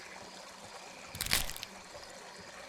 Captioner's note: branch snaps